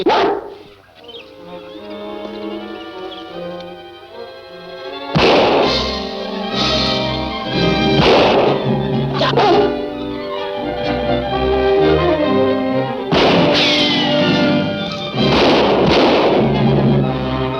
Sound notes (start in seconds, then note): 0.0 dog barks; 2.4 dramatic music continues; 5.1 gun firing; 6.7 dramatic music continues; 8.0 gun firing continues; 9.2 dog barks; 13.2 gun firing continues